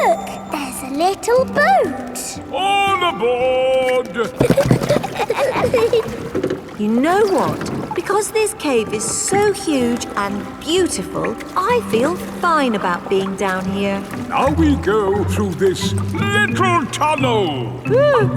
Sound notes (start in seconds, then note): 5.4 giggling